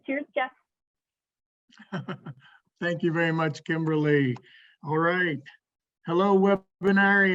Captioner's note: laughs